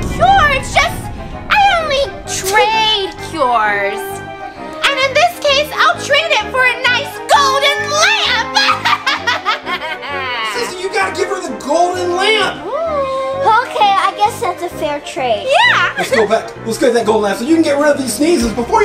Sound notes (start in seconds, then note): 8.6 evil laughter